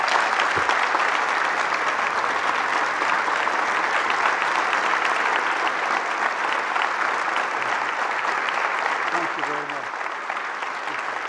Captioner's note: applause